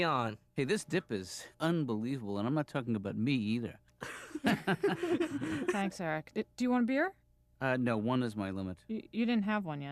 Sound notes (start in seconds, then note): 4.0 kids laugh